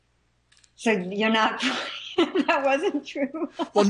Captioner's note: laughs